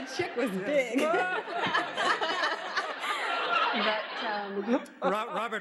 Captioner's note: laughs